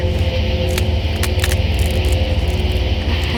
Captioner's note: branches breaking